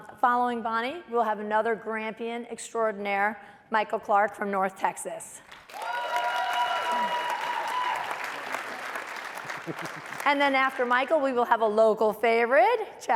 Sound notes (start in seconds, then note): 5.5 applause and cheering